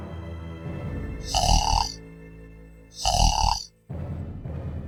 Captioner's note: Guma snoring